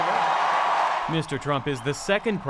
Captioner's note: cheering